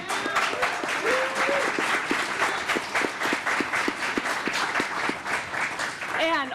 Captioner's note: applause